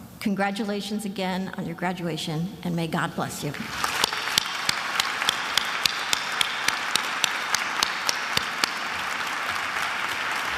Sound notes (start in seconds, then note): 4.7 applauds; 5.6 attendees applauding